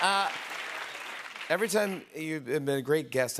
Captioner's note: normal voice